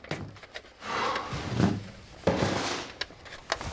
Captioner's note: hawk sighs